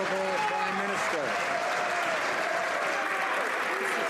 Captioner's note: some Applause